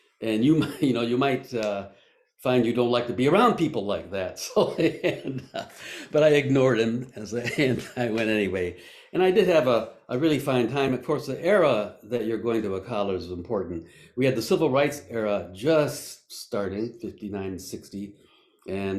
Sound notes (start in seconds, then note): 4.5 laughs